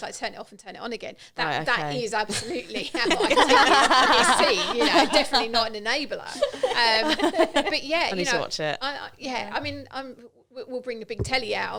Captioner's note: laughing